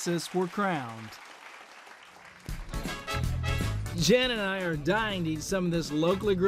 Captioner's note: applause